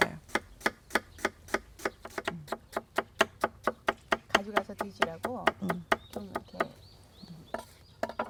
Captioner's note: chopping sounds